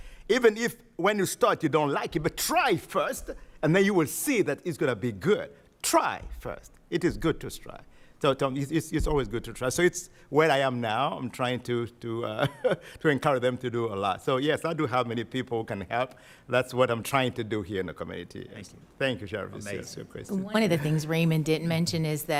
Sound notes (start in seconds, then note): 12.3 chuckles